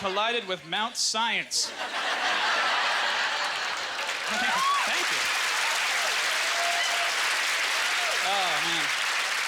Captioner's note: audience laughter; cheers and applause